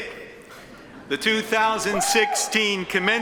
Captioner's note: attendees chuckle